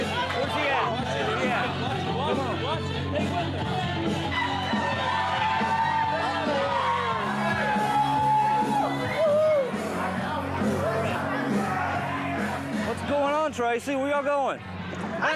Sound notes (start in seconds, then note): 4.2 cheering